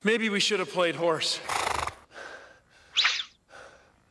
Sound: horse snorts

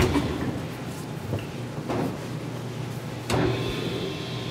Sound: machine motor stopping

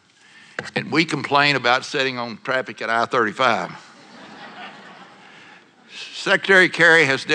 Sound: laughter

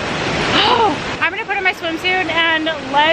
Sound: water splashing

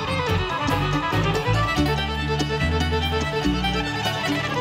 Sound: audience cheering

